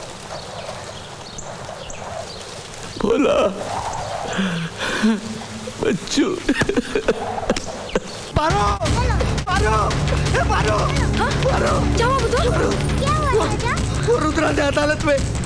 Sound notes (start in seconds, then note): 6.4 Crying